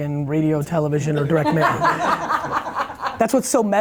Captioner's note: laughing